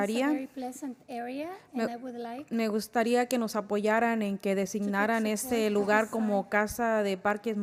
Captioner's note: spanish